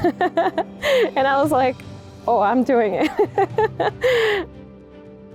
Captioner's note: chuckles; chuckles